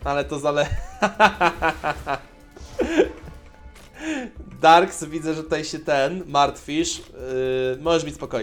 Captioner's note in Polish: śmiech